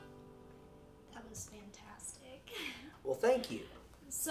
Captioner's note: laughs